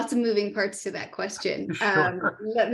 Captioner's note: laugh